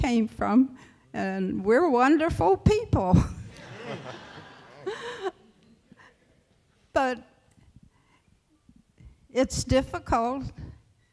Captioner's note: laughter